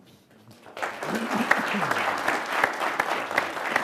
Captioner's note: applause